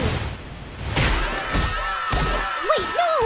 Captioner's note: screaming